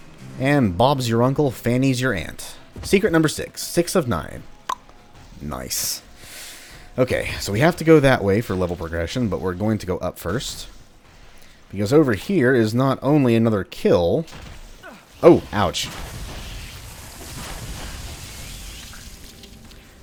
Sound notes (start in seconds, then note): 0.0 riff plays; 4.9 click; 14.8 Scavver grunts in pain; 16.8 Fwooshes Matango